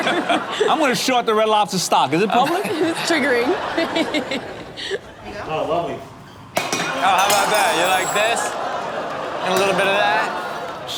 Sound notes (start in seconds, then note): 4.4 laughs